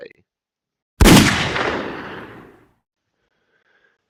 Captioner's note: gunshot